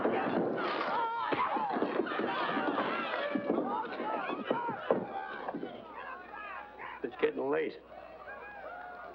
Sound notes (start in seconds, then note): 0.0 yelling & commotion; 0.2 thump; 2.4 thump